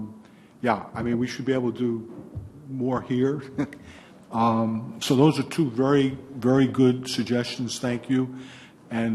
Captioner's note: laughs